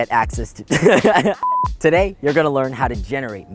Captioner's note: laughing; beeping